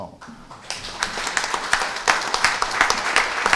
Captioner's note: applause